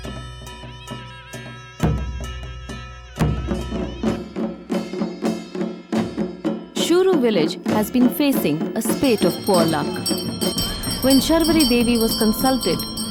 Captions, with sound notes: (reed pipe music) (soft drumming) Shuru village has been facing a spate of poor luck. (bells jingling) When Sharvari Devi was consulted,